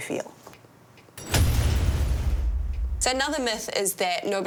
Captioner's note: metal clanging; metal thudding